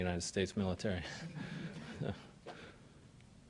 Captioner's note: laughter